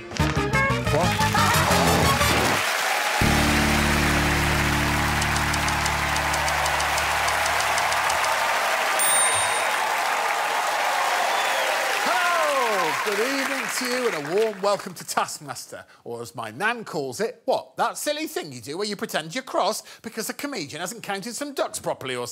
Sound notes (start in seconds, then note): 1.8 cheers and applause; 9.9 applause and cheering